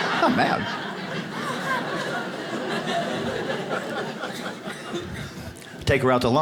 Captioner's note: audience laughs